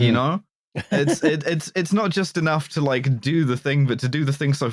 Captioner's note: laughs